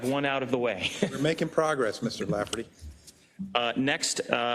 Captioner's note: laugh